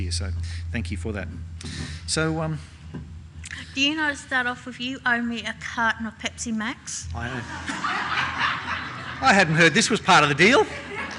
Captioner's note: laughing